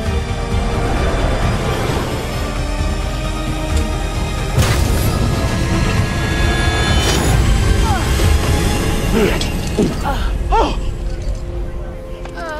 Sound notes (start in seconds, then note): 6.2 grunts; 9.1 Buck grunts; 12.4 Pauline whimpering